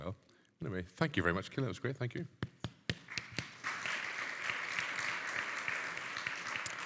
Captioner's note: clapping